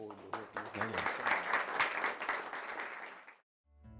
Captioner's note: applause